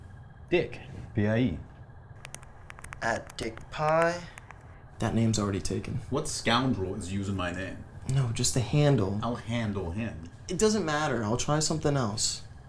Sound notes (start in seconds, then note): none